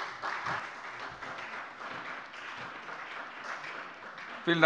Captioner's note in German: Beifall bei der SPD